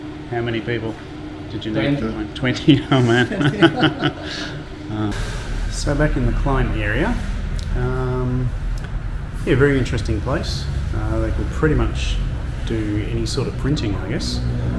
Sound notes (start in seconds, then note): 2.6 he laughs; 2.6 laughing